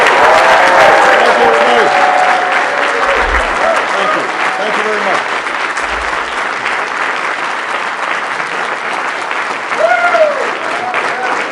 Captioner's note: applause